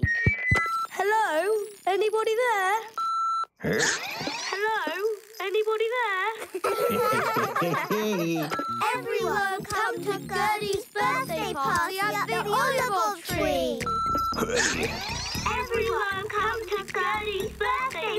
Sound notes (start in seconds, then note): 3.6 grunts; 4.6 recorded Voice; 6.3 laughing; 14.0 grunts; 15.6 recorded Voice